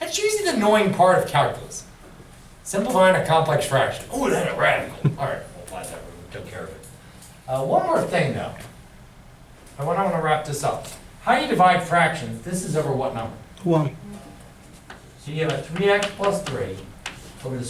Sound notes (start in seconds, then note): 14.0 voiceover